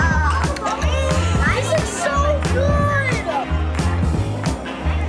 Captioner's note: laughing